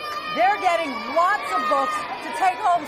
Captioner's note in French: cheers